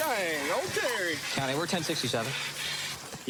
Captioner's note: groroans